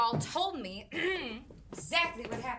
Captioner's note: clears throat